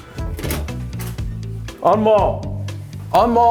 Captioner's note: door clicking open